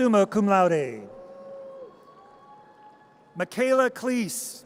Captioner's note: audience cheers